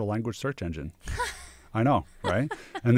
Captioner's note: laughs